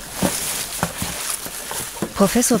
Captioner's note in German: Rascheln